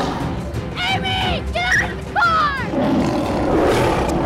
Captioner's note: Whimpering